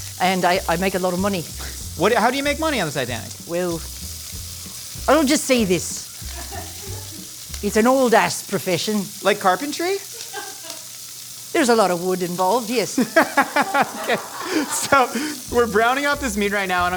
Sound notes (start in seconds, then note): 12.9 laughing